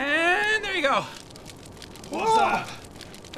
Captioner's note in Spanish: sonidos de fuego crepitante